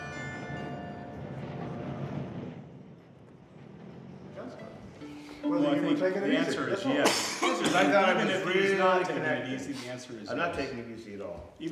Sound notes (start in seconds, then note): 6.9 coughs